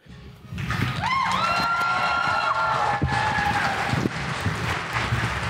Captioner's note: audience applauds and cheers